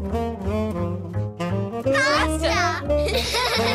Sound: kids shout

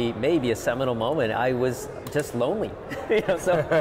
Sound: laughing

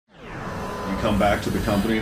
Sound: logo whooshes

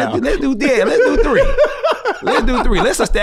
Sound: laughs

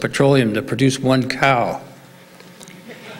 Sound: laughs

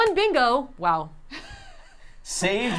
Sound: laughing

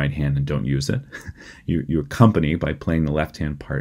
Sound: laughter

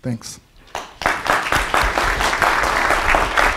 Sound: applause

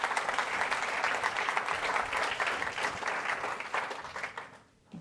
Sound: applause

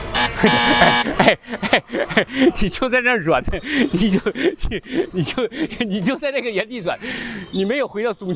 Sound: laughs

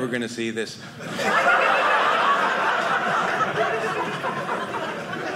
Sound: audience laughing

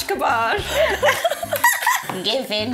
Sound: both laughing

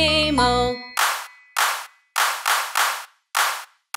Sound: clapping

